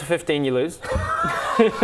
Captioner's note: painful laughs